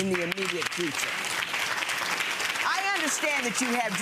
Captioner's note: audience applauding